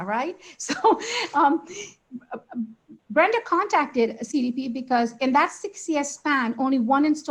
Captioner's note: laughs